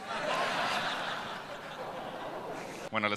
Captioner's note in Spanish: Risas